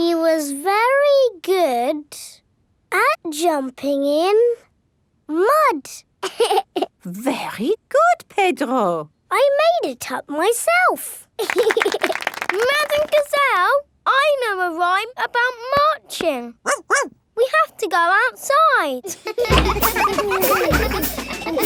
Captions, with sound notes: He was very good at jumping in... Mud. (LAUGHS) Very good, Pedro! I made it up myself! (LAUGHING AND CLAPPING) Madame Gazelle, I know a rhyme about marching. (BARKS) We have to go outside! (CHILDREN LAUGHING)